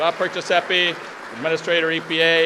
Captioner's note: applause